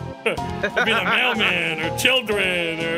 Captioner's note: laugh